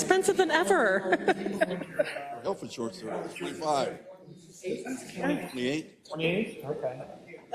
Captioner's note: laugh